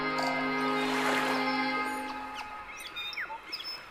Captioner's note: waves lapping; birds chirping